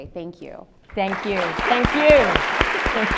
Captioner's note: audience applauds